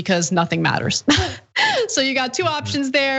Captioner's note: laugh